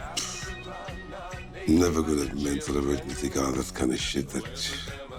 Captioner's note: pshhhh